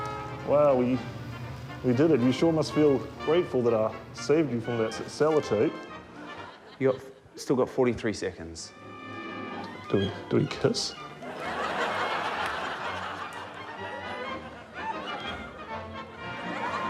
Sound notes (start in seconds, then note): 11.5 audience laughs